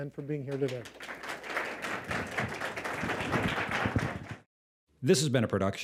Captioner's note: applause